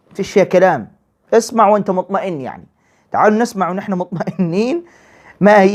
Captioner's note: laughter